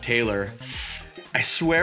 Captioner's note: winces